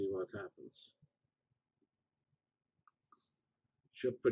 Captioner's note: pause